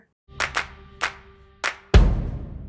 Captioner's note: hands clapping; drum thudding